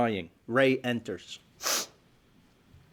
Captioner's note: sniffles